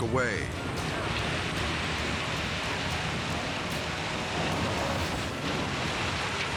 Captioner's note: tornado pounding; wind ripping